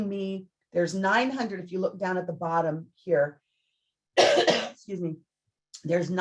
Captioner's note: coughs